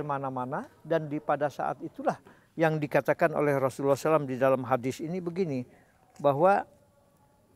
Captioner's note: Arabic